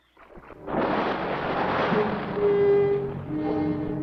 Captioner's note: water splashes; ominous music